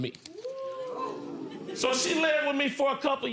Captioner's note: audience oohing